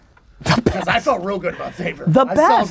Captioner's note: pat